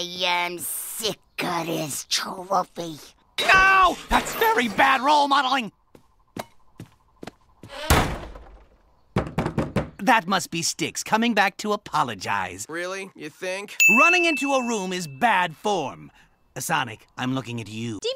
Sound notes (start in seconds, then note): 7.8 closes door; 9.1 knock on door